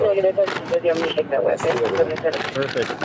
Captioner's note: radio chatter